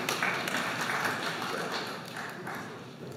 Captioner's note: applause